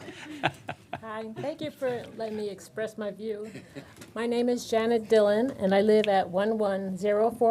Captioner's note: laughter